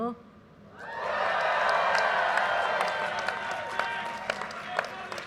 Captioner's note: audience cheers and applause